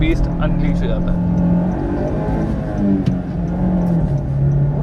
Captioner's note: engine revs